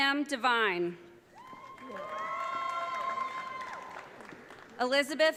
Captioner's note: audience cheering